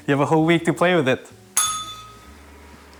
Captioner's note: bell rings